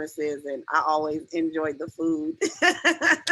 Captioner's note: laughs